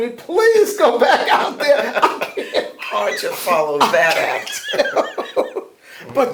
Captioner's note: laughter